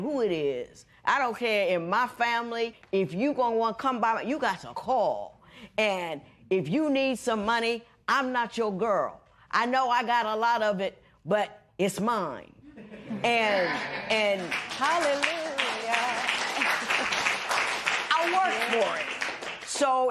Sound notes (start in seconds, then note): 14.3 applause